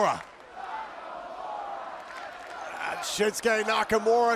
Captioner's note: fans chanting